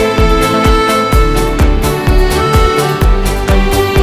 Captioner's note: Mouthing